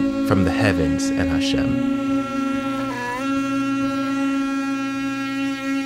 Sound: shofar sounding

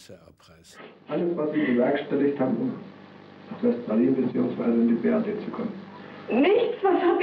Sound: speaking German

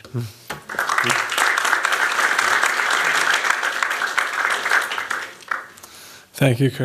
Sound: applause

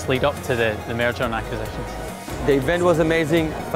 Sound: heavily accented

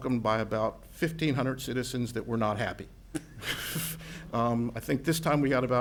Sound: giggles

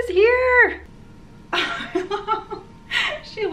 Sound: laughs

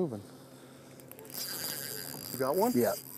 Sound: reel cranking

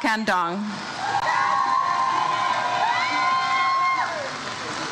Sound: crowd cheers

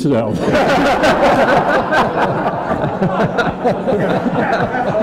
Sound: attendees laughing

